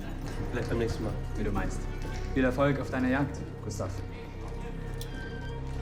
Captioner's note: speaking in foreign language; dramatic music